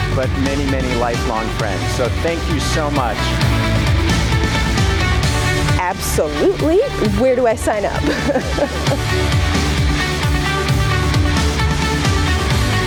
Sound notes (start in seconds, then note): 3.3 upbeat electronic music; 7.8 interviewee laughing; 9.2 upbeat electronic music